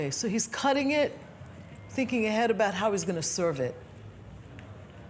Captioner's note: none